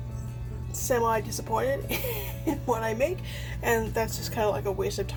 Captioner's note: laughs